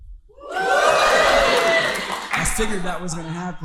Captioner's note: audience cheering